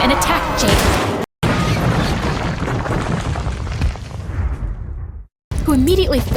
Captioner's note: crash